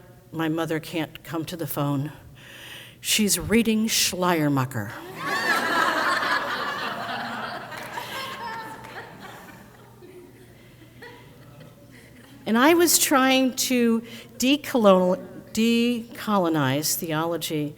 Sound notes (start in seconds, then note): 5.0 crowd laughs